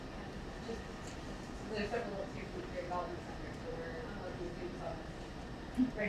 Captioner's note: woman speaking away from mic